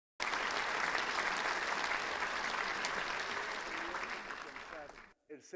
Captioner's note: clapping